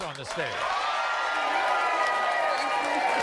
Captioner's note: audience cheering and applauding